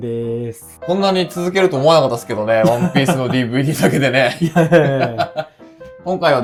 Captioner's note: both laughs